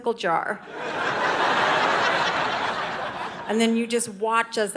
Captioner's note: audience laughing